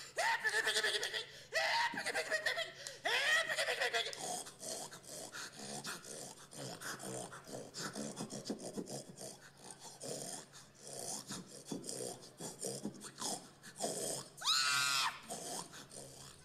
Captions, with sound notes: HeEErRR PiGgYY *snorting pig?* *scream* *pig noises?*